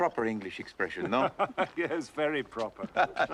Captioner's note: Tertawa